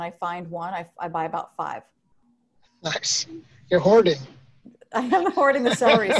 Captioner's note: laughs